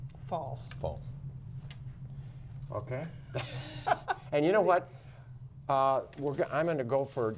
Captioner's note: laughter